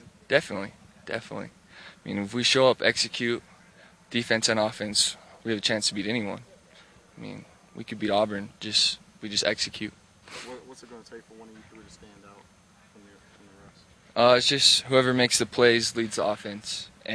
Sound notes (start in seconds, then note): none